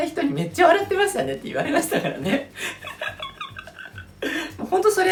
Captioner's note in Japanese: 大笑